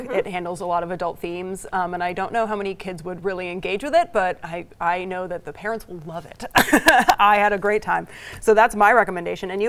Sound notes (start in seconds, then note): 6.6 laughing